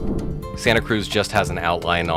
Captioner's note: air whooshes